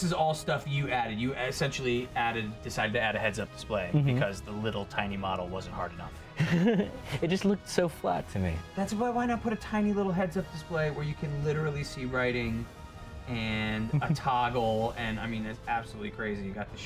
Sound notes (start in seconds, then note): 6.4 laughs